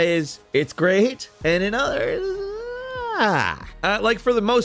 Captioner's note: unsure groaning